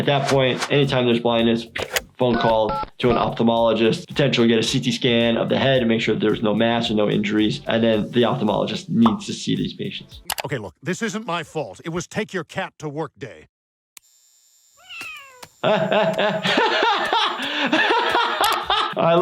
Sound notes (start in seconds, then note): 14.8 cat meows; 15.6 laughing